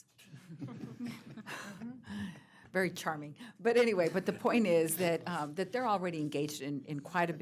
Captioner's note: laughter